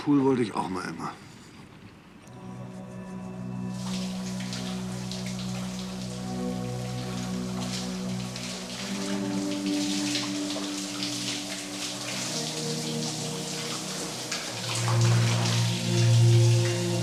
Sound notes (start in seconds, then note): 3.8 shower runs